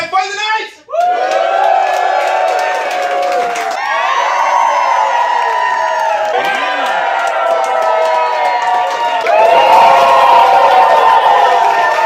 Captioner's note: cheering and applause